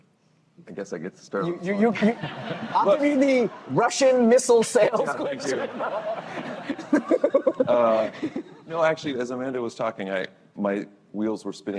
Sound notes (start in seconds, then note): 6.6 laughter